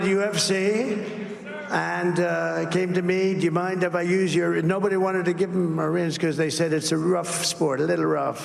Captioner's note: crowd chanting